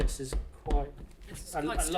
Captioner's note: floor thumping